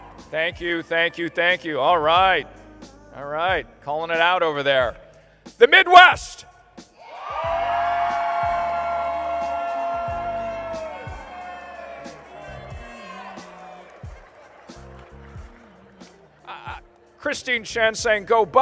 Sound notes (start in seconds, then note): 0.0 cheering and applause; 7.0 cheering and applause